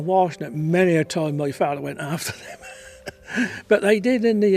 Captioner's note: laughs